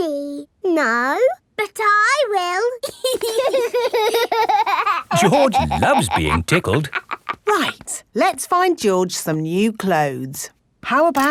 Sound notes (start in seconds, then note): 2.8 laughing